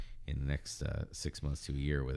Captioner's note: uh